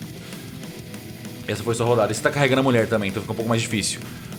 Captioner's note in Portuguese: none